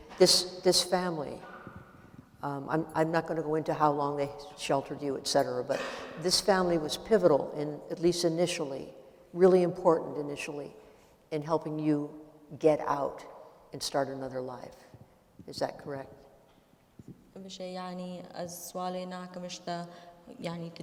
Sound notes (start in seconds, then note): 17.6 speaking kurdish